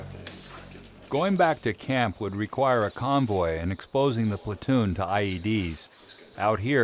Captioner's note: voiceover